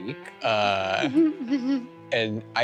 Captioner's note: laughs quietly